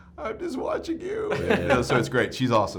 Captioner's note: laughs